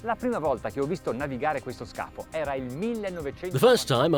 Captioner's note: speaking foreign language